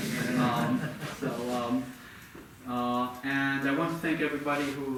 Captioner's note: audience laughing